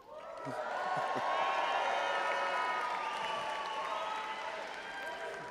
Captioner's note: audience applauding and cheering